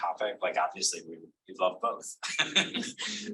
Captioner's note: laughs